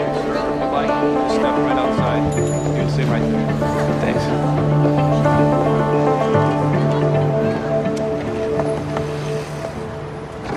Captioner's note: indistinct chattering